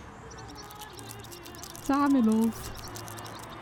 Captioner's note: scuttling legs